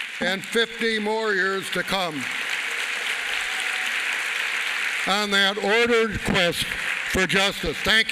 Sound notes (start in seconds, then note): 2.5 applause